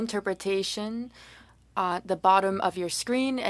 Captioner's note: speaking French